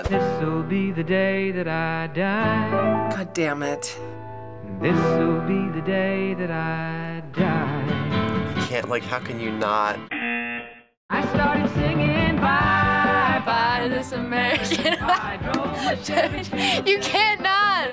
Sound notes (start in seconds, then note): 10.0 buzzer